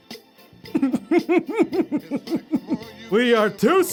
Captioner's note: giggling